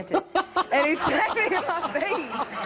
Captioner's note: laughs